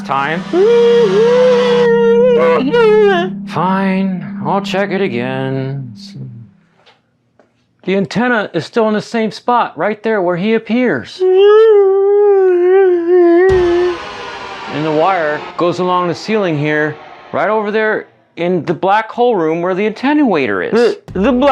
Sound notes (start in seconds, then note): 0.0 whiney existential dread; 11.0 Other-Me-style whiney noises